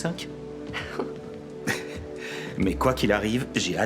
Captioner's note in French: gloussements